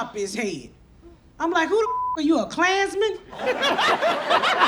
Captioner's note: beep; audience laughs